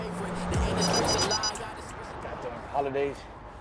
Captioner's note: rap music on radio; radar beeps rapidly